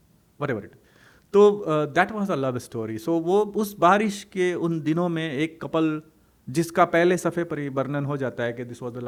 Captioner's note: hindi